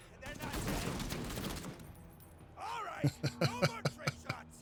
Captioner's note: laughs